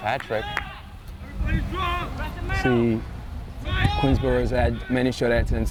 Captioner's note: players shouting